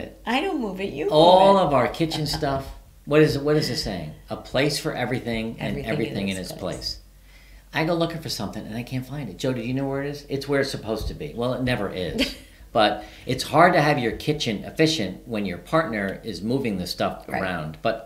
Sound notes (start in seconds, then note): 1.2 giggles; 12.1 chuckling